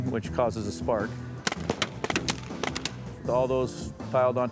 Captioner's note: guns firing